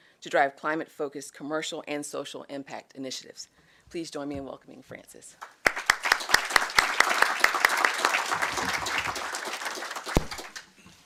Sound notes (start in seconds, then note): 5.5 audience applauding